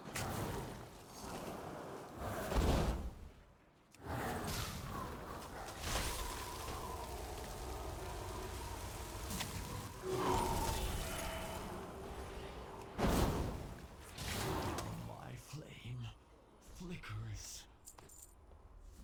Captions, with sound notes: [grunt] Oh, my flame. Flickers.